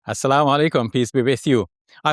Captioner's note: speaker speaking foreign language